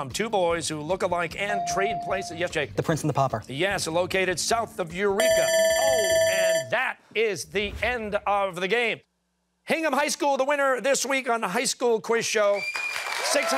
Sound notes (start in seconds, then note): 5.2 bell ringing